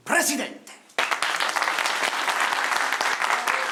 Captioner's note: applause